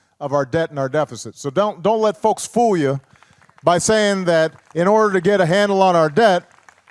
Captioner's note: applause